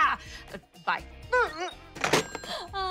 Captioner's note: whimpers